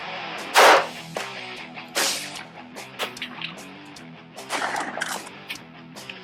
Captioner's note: gunshots; arrow shot